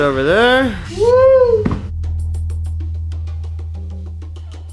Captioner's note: falsetto